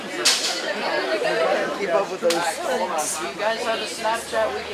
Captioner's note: class chattering